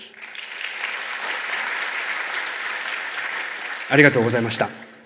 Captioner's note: clapping sound